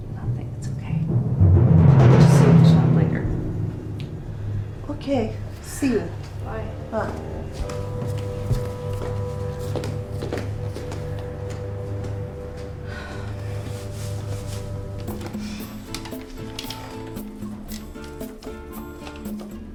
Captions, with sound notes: - Nothing. It's okay. I'll just see you at the shop later. - Okay, see you. - Bye - Bye. (footsteps departing) (Joan sighs loudly) (mellow instrumental music)